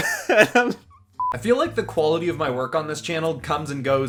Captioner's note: beep